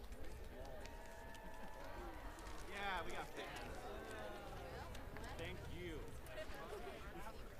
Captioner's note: applause